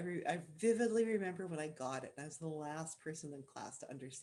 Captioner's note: none